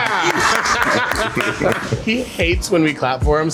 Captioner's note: people laughing